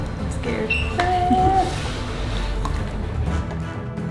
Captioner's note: laughing; dramatic music